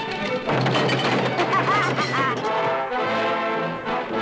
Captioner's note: laughing